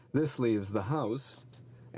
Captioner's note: speaking french